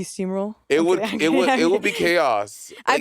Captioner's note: chuckling